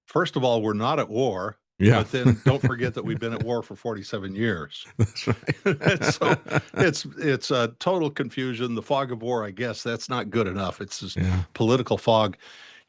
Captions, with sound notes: First of all, we're not at war, but then don't forget that we've been at war for 47 years. That's right. (Laughing) It's a total confusion. The fog of war, I guess that's not good enough. It's just political fog.